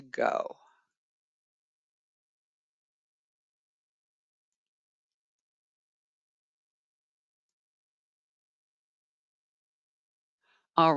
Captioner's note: 9 seconds pause